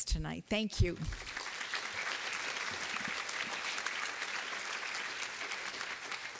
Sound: applause

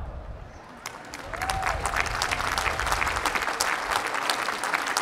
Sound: applause

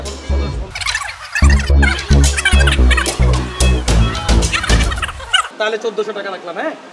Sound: bargaining sound

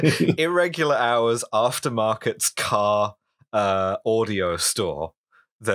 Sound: laughter

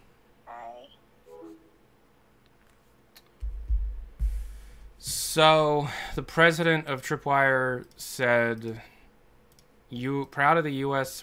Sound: sigh

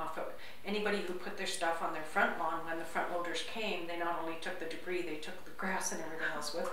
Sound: conversation

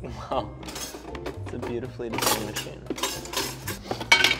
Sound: clanks

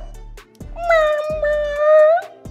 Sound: meowing cat sounds

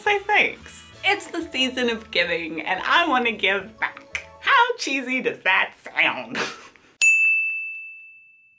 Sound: ding

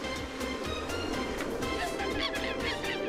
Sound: monkey cries

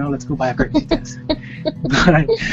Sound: giggling

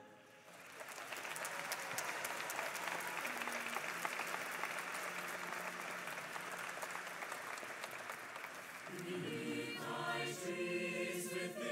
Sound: applause

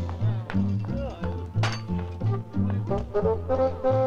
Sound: guests murmur; playful music

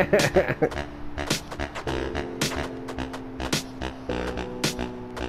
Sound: laughing

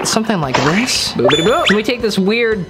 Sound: bubbles sound

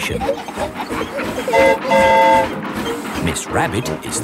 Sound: train whistle toots

